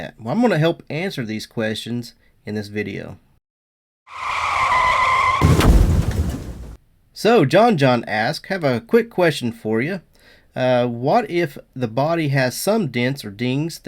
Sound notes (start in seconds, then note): 4.0 car screeching